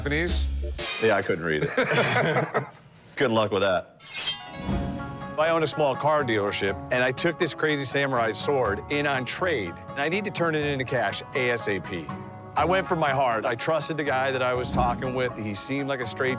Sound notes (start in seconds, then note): 1.5 laughter; 4.0 sword unsheathing